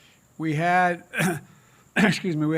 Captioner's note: clears throat